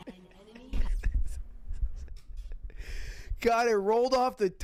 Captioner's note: Ludwig laughing